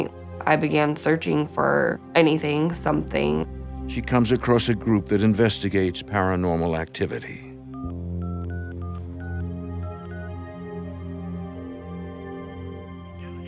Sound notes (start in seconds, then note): 7.7 phone beeping; 9.8 phone rings